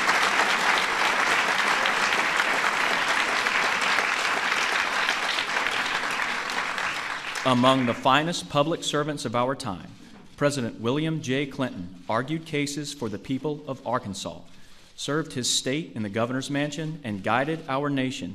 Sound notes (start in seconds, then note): 0.0 applause